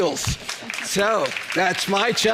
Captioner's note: audience applauds